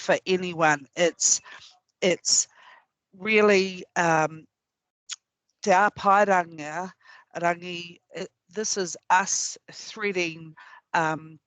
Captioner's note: non-english speech